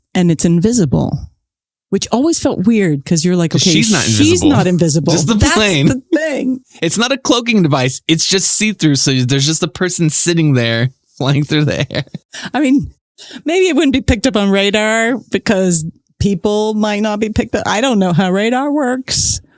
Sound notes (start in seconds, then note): 11.8 laughs